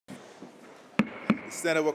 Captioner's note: gavel bangs